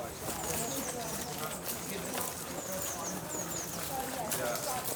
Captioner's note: chatter and birdsong